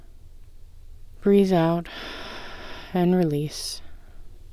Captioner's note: exhale